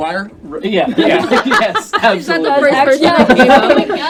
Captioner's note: group laughter